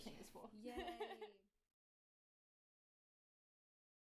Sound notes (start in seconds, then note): 0.7 laughing